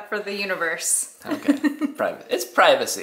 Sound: laughs

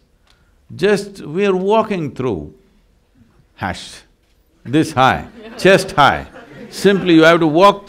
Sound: laughter

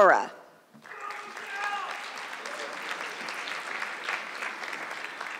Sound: audience clapping

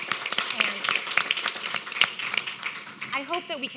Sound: audience applauding

